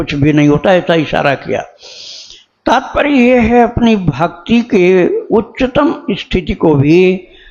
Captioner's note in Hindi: नाक से की जाने वाली आवाज़